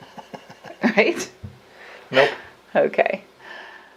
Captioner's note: laughing